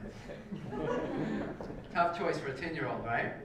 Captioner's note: laugh